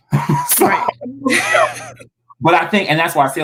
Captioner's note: laughing